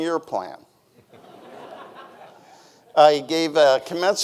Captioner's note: audience laughing